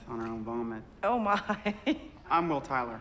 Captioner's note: laughs